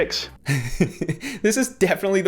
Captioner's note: laughs